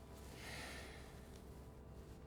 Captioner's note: none